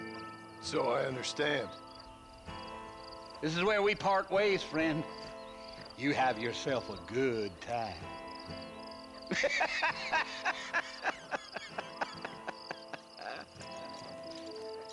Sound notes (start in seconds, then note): 9.2 laughing